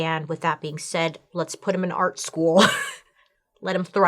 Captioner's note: laughs